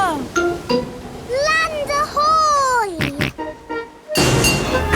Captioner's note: snorts